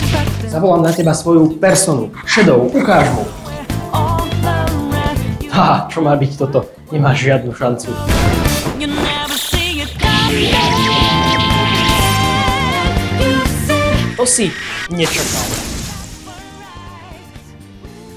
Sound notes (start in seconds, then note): 10.2 battle sound effects from the game intensify; 14.9 explosion sound